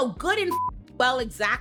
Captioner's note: beep